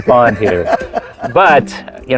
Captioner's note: laughing